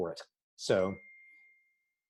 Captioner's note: phone dings